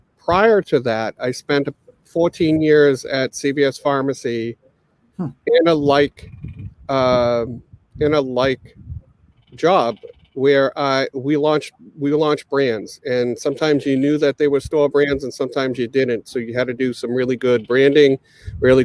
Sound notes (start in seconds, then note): none